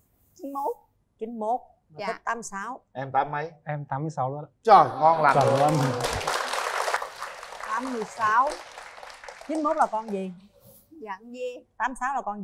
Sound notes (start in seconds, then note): 5.2 claps